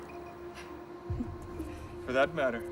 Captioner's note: Karen chuckles